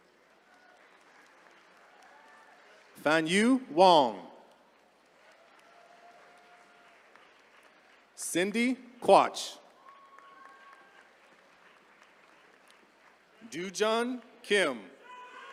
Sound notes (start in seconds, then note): 0.3 attendees cheering; 6.7 attendees cheering; 9.7 attendees cheering; 15.0 attendees cheering